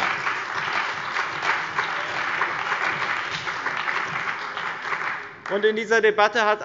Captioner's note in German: Beifall bei dem BÜNDNIS 90/DIE GRÜNEN und der CDU